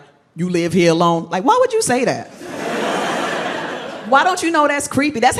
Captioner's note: crowd laughs